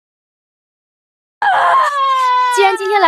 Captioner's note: gasp!